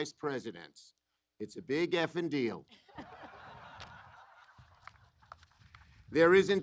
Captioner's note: applause